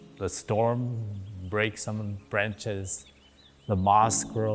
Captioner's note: insects buzzing